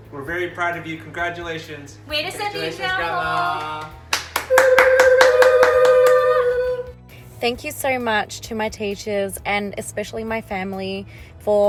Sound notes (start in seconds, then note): 2.3 man and woman speaking foreign language; 4.3 men and woman applauding